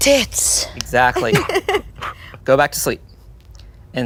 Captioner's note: laughs